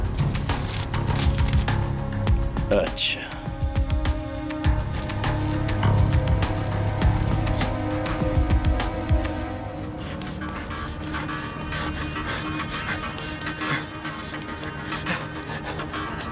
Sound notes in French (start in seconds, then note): 10.0 Haletant